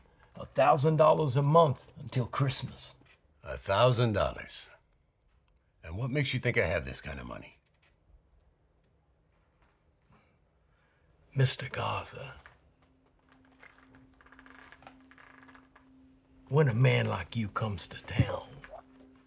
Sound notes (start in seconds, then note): none